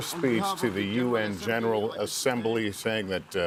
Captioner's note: applause